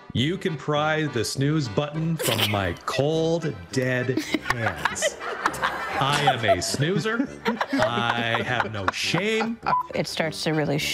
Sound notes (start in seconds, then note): 3.9 attendees laughing